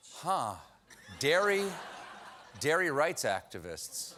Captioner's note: booing